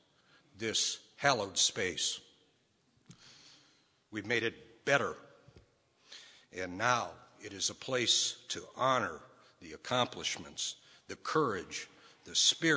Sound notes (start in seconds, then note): none